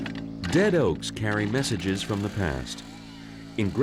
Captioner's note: chainsaw